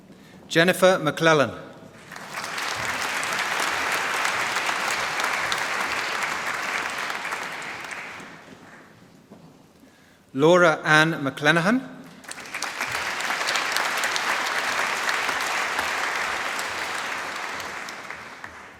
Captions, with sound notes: Jennifer McLellan. (Applause) Laura Anne McLenaghan. (Applause)